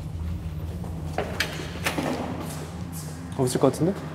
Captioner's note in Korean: '철컥' 문 열리는 소리